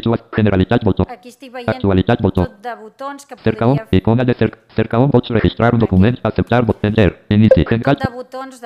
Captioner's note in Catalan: veu del lector de pantalla; veu del lector de pantalla